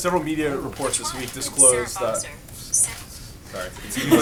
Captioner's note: phone interruption; laughter